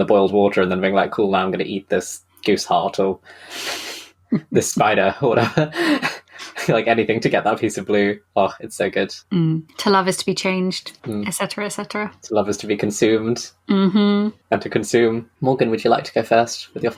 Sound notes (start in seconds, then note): 4.4 laughs